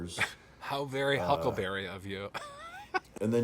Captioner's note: laughing